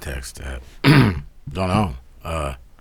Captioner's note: clears throat